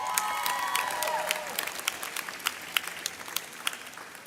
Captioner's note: graduates cheer